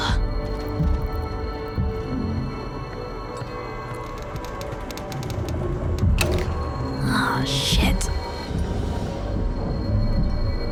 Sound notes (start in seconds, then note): 5.9 floor creaking